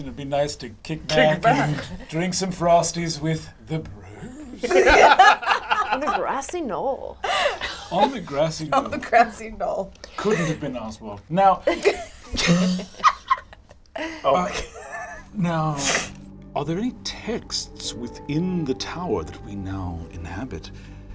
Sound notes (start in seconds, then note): 4.2 all laugh; 11.6 laughs